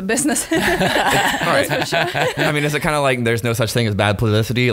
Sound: laughing

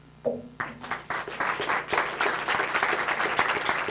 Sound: applause

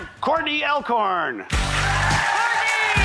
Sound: triumphant music; audience applauding

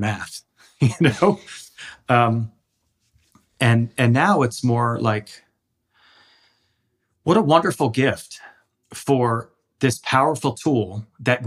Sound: laughs

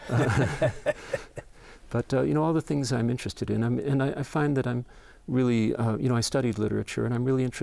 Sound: laughing

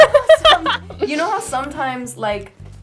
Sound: laughter

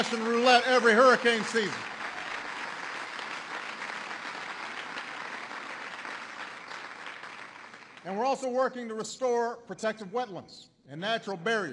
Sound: applause

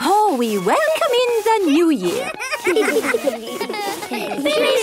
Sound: laughter

